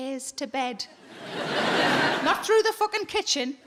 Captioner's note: audience laughing